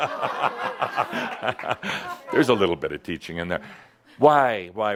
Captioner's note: laughter